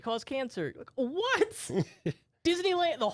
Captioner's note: laughs